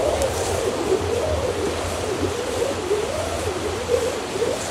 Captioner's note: river echoing